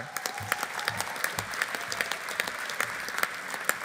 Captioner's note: audience applauding